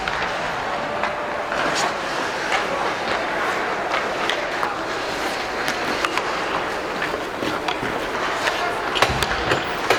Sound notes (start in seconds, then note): 4.1 hockey puck clanking; 4.1 people chattering